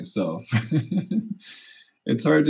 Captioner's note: chuckles